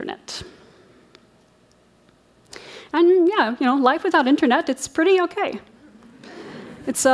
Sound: laughter

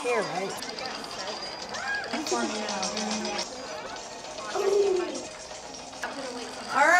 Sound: game sounds

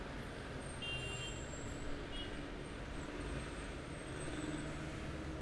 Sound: car horn; sound of traffic

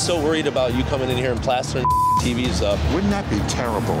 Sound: beep

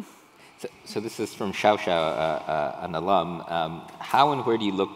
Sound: speaking foreign language

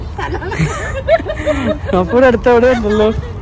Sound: laughing

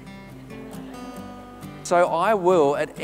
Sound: audience laughs

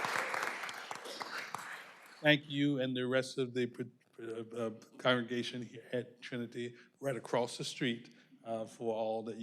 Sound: applause

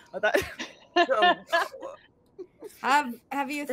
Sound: group laughing

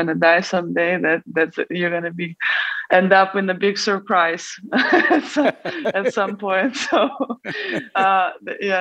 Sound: both laugh

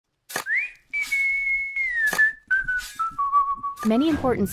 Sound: person whistling, sound of digging

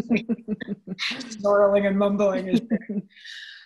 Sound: audio warps

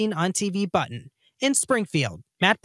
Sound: en espanol

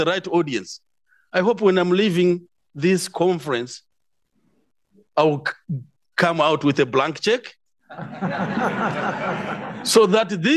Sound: audience laughs

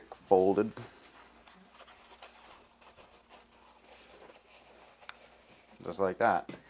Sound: light sound of cardboard being rubbed together

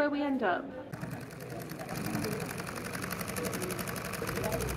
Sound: sewing machine

